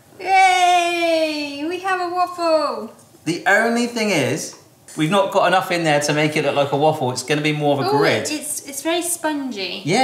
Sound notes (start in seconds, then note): none